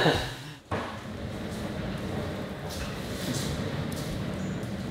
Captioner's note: laughs; wheels smoothly rolling